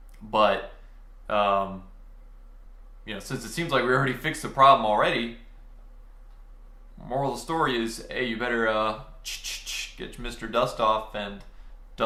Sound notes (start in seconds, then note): 9.2 mimicking spraying